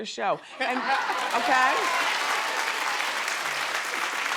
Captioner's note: crowd claps